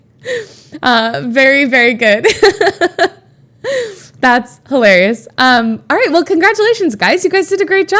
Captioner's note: Emma laughs